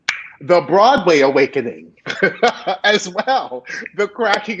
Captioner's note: laughing